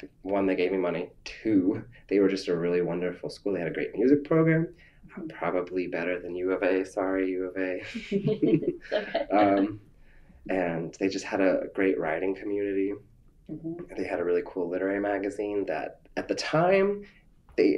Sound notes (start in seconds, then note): 7.8 laughter